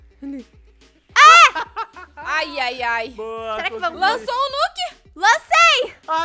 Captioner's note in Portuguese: grita